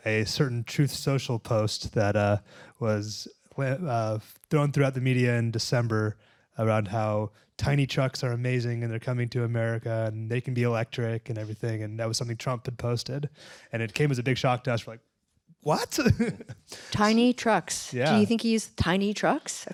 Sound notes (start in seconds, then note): 15.8 laughter; 16.6 gasp